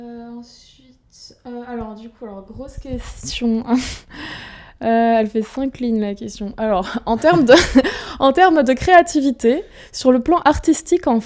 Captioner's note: laughs